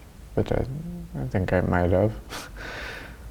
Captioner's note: laughs